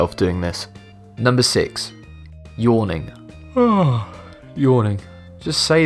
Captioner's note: yawns